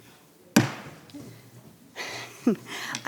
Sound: gavel thudding; chuckles

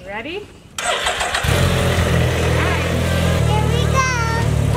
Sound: motorcycle rattling

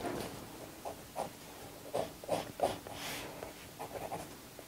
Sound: pencil scrapes

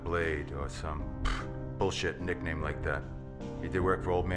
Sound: scoffs

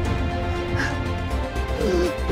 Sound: Dean gasps; Rowena gasps

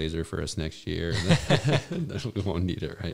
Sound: laughs

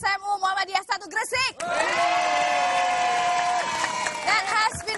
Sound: applause; speaking indonesian

